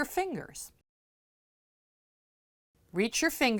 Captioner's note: no Sound Present